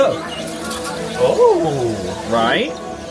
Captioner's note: exclaims